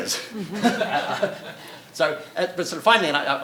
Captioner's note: audience laughing